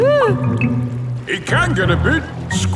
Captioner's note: whimpers